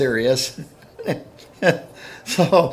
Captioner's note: laughing